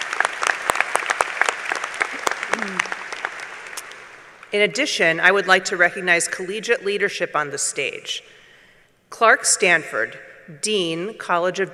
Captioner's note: applause